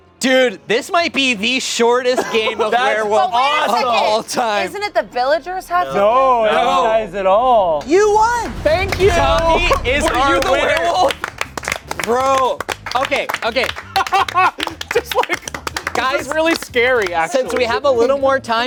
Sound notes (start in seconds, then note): 10.7 everyone clapping; 13.7 laughing